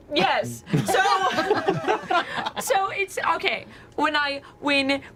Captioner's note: laughter